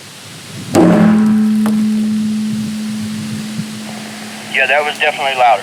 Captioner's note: barrel ringing; tree knocker thuds